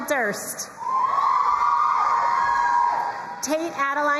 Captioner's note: crowd cheering and applauding